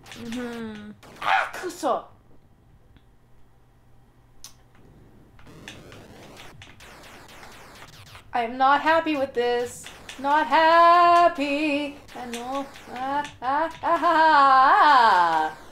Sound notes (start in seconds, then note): 1.3 japanese; 2.5 long pause